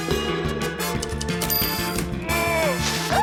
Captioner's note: dings